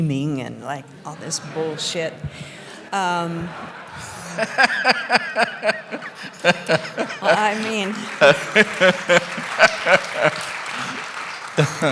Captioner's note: laughter